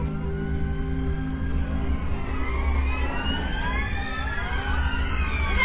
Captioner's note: loud sirens